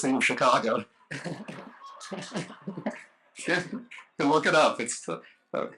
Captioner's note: laughter